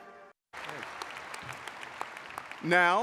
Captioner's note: audience applauding